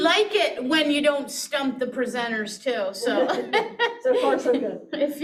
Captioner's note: chuckles